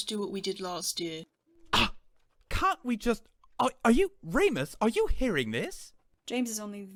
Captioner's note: Sirius gasps